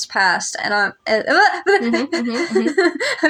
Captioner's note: stammer; laugh